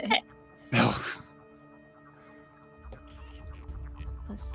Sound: laughs; scoffs

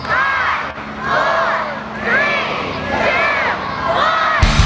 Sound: crowd

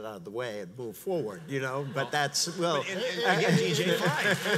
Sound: audience applauds

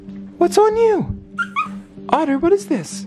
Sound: otter yips

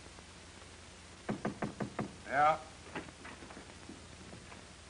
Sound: knocking on door

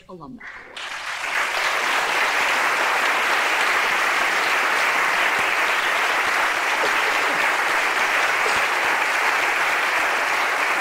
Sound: applause

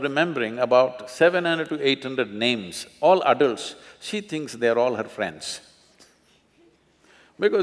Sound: laughs

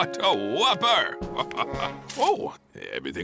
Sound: chuckles

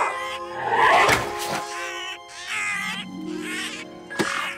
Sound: cawing

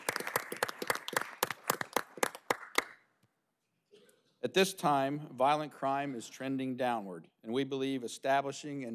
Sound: applause

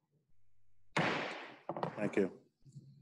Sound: bangs Gavel

